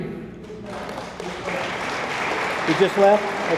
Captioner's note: attendees applaud